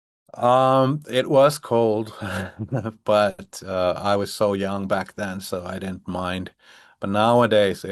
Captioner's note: chuckles